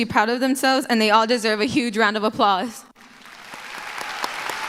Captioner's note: applause